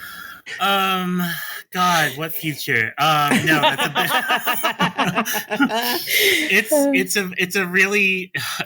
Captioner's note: laughter